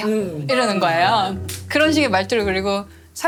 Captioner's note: scientist's nervous tone